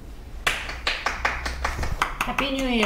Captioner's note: applause